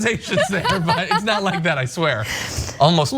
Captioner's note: laugh